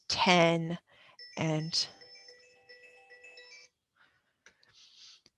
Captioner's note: phone ringing